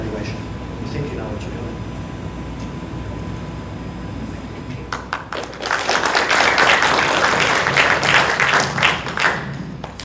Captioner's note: applause